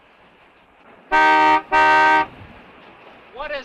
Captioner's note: horn honking